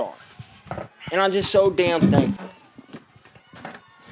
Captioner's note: Nick struggles loudly